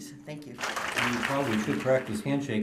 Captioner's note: applause